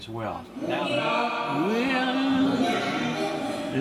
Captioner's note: voice distorting and echoing